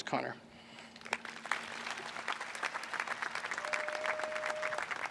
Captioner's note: applause